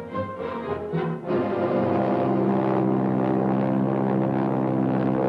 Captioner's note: plane engine roaring